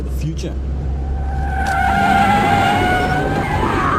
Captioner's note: tires skidding